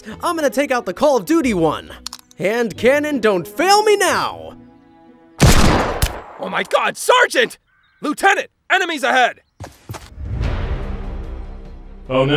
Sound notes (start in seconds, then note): 5.4 gun fires; 10.1 upbeat tense music begins